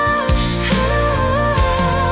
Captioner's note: humming